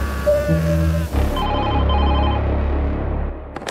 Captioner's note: phone ringing